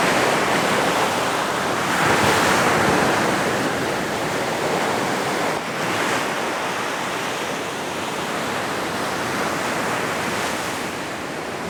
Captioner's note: wind blowing